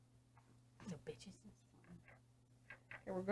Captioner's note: quietly